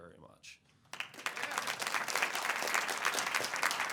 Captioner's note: applause